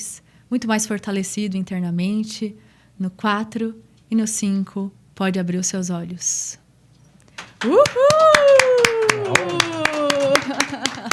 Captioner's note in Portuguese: aplausos